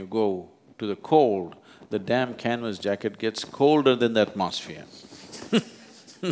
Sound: laughs

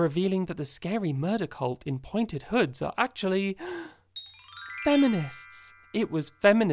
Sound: gasps

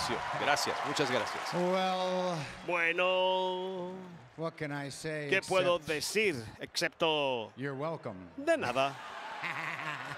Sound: applause

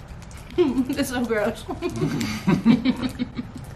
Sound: laughing

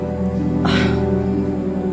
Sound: sighs

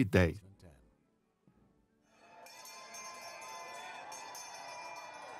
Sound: bell ringing

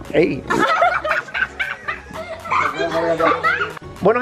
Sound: laughs

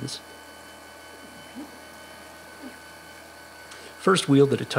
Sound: machine whirring

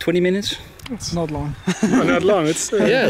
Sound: chuckles

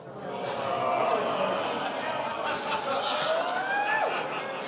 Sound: audience groaning; laughter

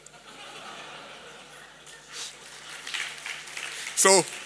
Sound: laughter and applause

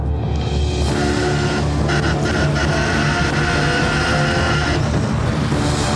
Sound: horn toots

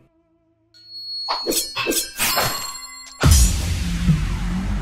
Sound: swords swooshing; ominous music

